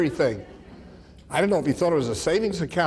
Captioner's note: audience laughs